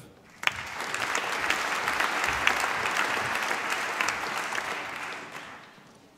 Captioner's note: applause